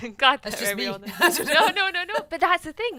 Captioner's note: laughs